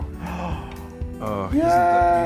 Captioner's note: gasping